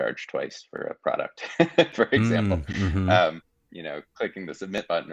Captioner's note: laughing